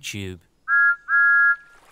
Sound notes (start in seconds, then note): 0.7 whistles